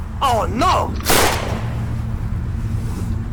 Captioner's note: gunshot